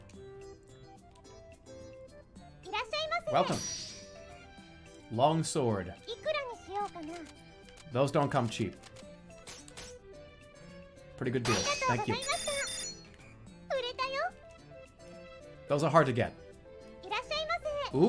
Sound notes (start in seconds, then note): none